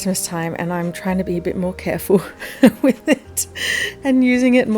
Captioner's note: laughs